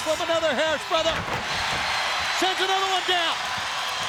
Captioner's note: crowd cheering